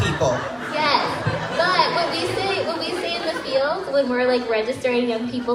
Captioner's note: crowd laughs